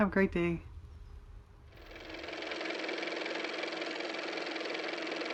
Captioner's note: car motor